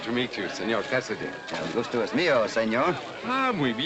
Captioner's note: in spanish